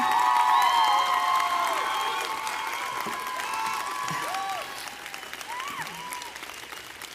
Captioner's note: audience clapping and cheering